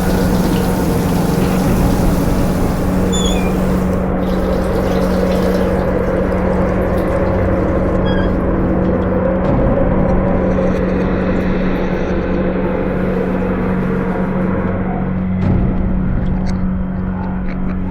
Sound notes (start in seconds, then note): 0.1 ominous music continues; 2.8 knob squeaking; 4.3 water splashing; 8.0 knob squeaking; 12.8 shower door sliding